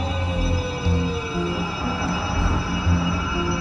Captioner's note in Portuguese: barulho de derrapagem; uivos